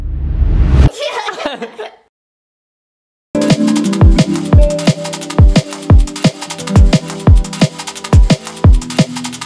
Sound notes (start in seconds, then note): 0.9 laughs; 3.3 upbeat music